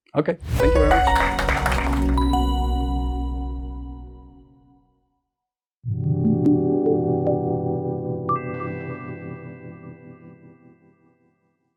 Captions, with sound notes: Okay. Thank you very much. (applause) (cheerful synth music) (synth music)